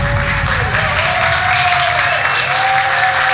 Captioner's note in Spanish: Aplausos